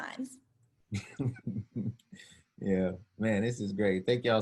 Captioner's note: laughs